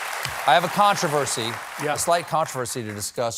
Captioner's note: cheers and applause